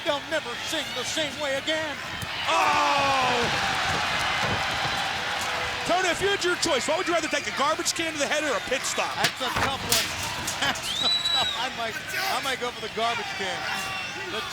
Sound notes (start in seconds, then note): 2.4 crowd cheering; 3.9 feet thudding; 9.2 chair thudding; 10.3 chuckles